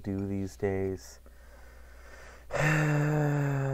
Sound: sigh

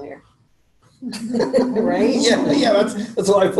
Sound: laughter

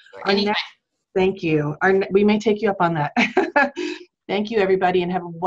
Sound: laughs

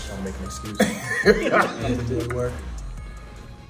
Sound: laugh; laugh

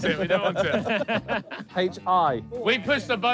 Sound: all laughing

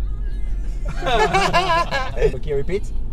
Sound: laughes

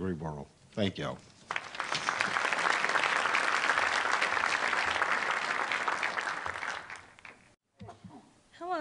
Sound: applause

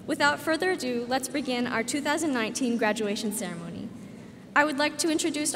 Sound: none

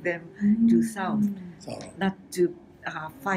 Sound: foreign language

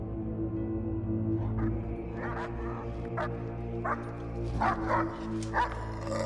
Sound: dogs barking and growling

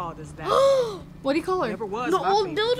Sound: gasps

